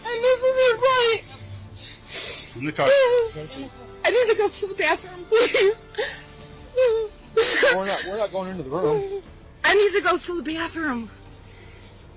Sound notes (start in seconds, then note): 0.0 whimpers; 2.8 cries; 6.7 cries